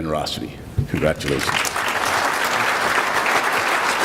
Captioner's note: clapping